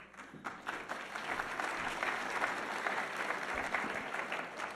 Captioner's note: audience applauding